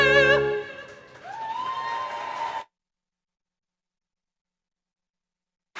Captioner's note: applause